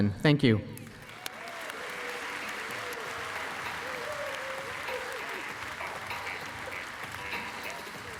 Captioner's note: applause